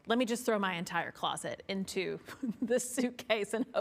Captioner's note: giggles